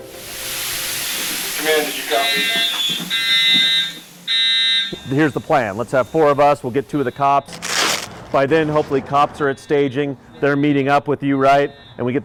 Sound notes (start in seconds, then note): 3.6 alarm buzzing